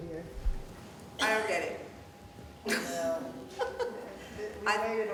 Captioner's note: laughing